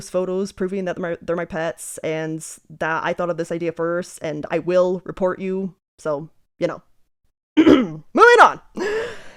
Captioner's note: clears throat